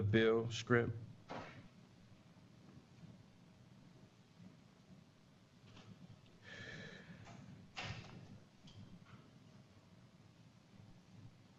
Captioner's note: pause